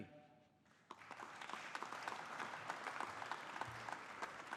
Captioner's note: audience applauding